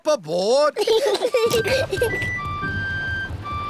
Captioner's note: peppa and george giggling